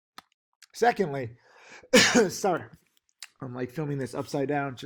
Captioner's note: coughing